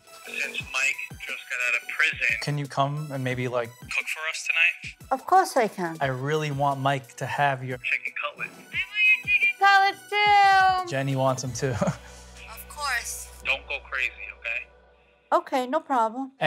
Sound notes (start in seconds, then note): 11.6 laughs